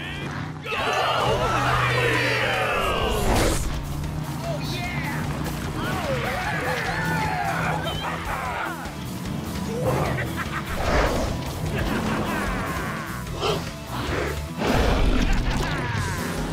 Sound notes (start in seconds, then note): 5.8 cheering; 9.4 laughing; 12.9 gasping; 13.8 roaring; 14.8 laughing